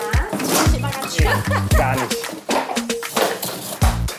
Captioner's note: laugh